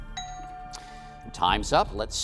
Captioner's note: bell dinging